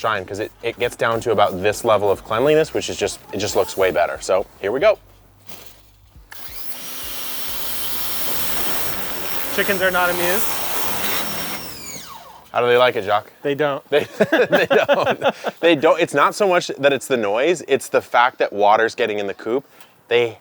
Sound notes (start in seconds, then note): 6.2 machine whirring; 14.0 both laughing